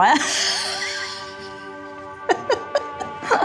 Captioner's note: laughing